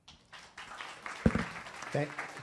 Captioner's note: audience applauding